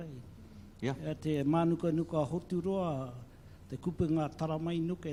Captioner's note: speaks in local language